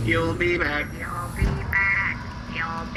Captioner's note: the door shuts after Derf